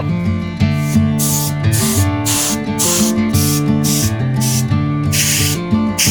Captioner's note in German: Lebhafte Musik; Zischen von Druckluft